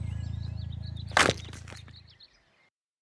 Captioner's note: crunch